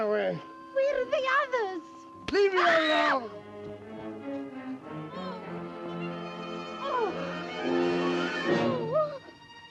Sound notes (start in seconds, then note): 2.6 screams